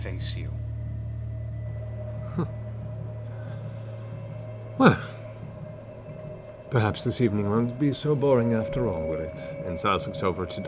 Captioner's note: chuckles